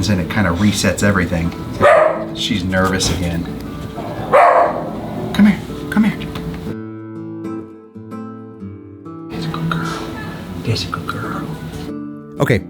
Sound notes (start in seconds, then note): 3.9 dog barking